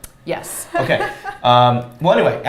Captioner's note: laughs